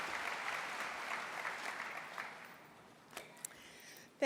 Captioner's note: applause